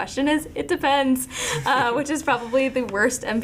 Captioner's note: laughing